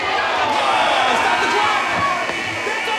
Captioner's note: cheering